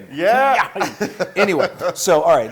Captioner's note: laugh